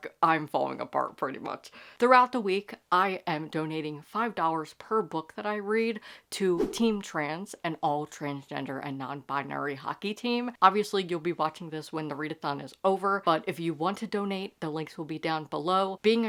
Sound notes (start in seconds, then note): 6.5 whoosh Sound Effect